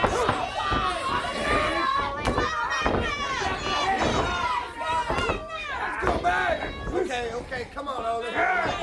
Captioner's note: crowd chatter